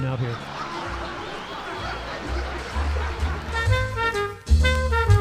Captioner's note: laughter; big band swing music